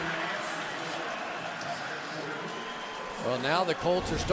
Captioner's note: pa announcement